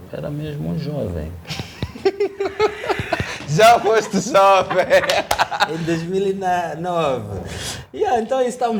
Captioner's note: laughter